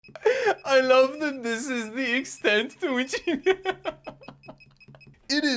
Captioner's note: laughing; more laughing